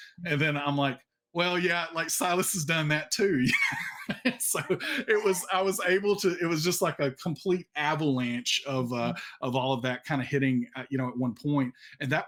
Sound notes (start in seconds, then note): 3.3 laughs